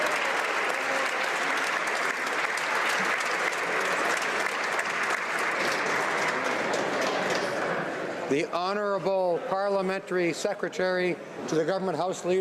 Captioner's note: applause